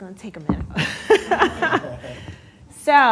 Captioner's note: laughter